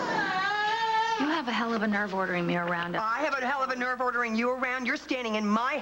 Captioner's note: matthew cries